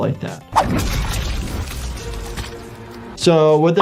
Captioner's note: dramatic music; flesh squelching